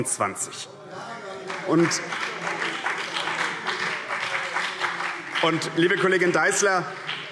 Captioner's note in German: Beifall